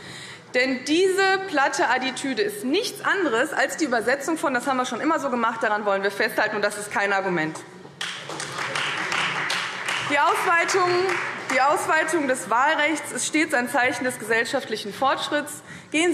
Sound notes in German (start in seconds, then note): 8.0 Beifall Freie Demokraten und SPD